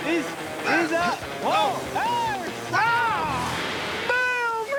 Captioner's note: shouting